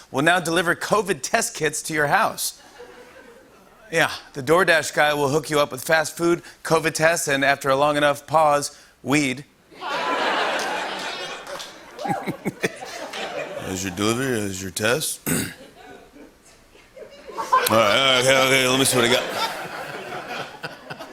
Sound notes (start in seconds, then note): 9.8 laughter; 15.2 clears throat